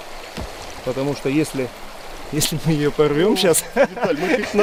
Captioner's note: laughing